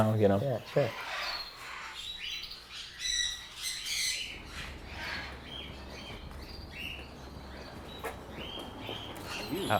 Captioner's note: birds chirping